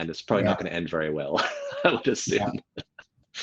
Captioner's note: laughs